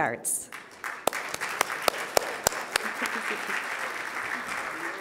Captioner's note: audience applauding